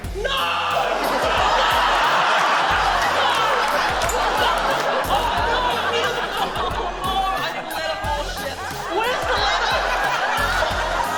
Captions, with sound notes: No! No! (LAUGHTER) Fuck! Oh no! I need a― Oh no! I need a ladder. Oh shit. Where's the ladder?